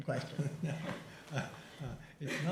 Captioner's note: chuckling